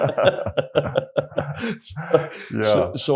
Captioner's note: laugh